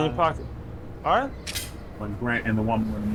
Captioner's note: gun magazine clicks in